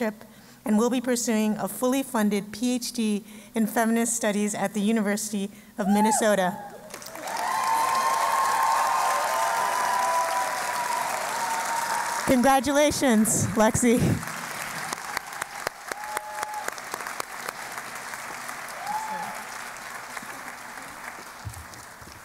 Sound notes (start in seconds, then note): 6.8 cheering and Applause; 13.4 applause